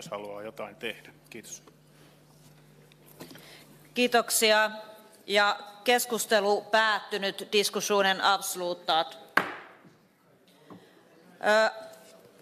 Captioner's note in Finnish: nuijan kopautus